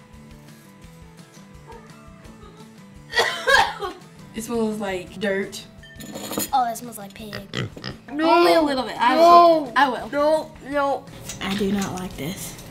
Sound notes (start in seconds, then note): 3.0 coughs; 7.2 pig snorts